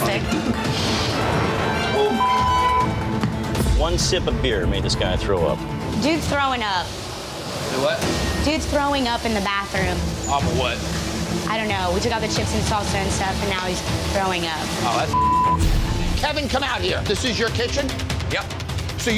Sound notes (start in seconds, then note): 1.2 intense music; 7.7 griddle sizzling; 15.1 beep